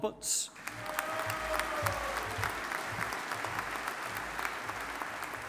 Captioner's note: audience applauding